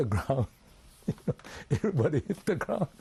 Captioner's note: laughs